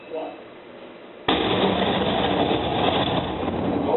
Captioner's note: loud booms